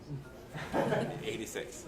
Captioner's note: attendees laughing softly